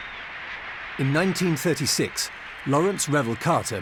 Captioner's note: cheers and applause